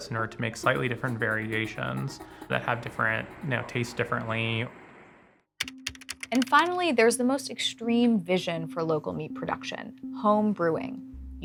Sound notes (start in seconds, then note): 5.6 letters typing